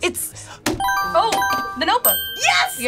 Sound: buzzer rings

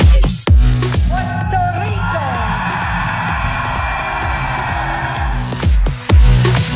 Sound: crowd cheering

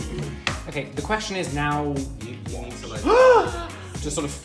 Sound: gasps

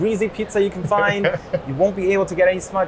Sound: laughs

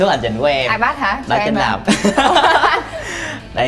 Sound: laughing

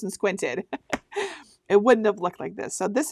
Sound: laughing

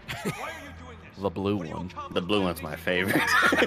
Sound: laughs

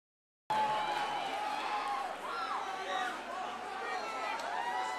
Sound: audience applauding

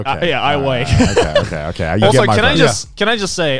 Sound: laughs

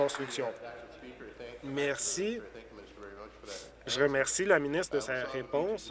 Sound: applause

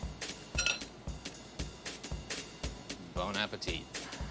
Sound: knife clinking on bowl; speaks French

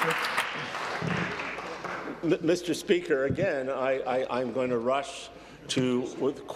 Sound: applause

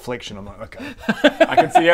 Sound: laughter

